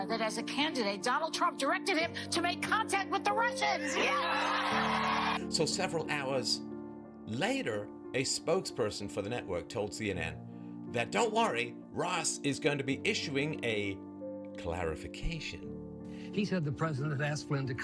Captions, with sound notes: "that as a candidate," "Donald Trump directed him to" "make contact with the Russians." Yes! (cheering) - So several hours later, a spokesperson for the network, told CNN that, "Don't worry." "Ross is going to be issuing a clarification." - He said the President has asked Flynn